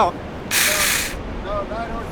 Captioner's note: tool whirs